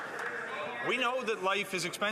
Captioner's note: some Applause